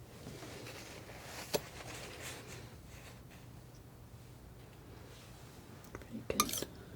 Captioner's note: scraping